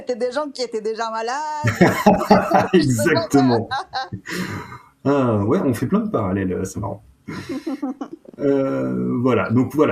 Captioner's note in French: Rires